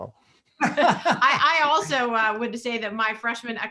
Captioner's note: laughter